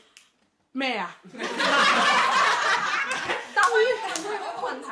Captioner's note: everyone laughs